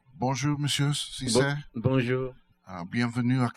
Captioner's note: speaking french